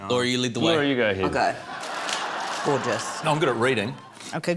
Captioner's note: laughter